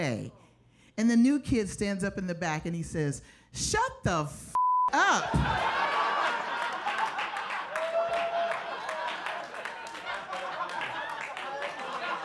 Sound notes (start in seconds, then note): 4.5 beep; 5.0 audience laughs